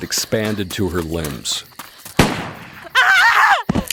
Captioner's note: baby crying